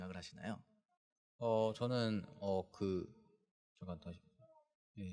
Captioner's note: speaking korean